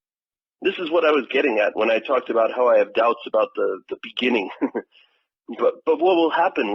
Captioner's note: laughs